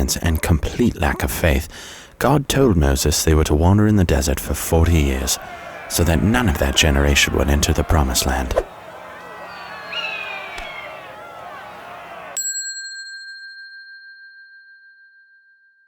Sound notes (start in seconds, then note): 9.3 Israelites shouting; 12.4 bell dinging